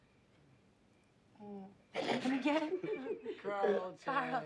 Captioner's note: laughs